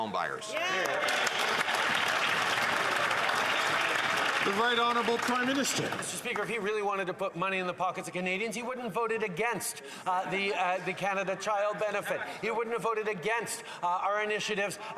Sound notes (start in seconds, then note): 4.6 some Applause